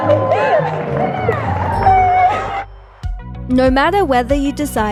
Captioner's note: restaurant guests clap